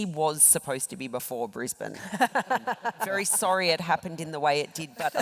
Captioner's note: laugh